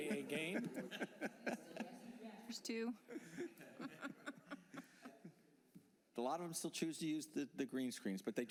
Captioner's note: laughter